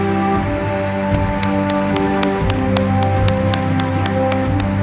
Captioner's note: applause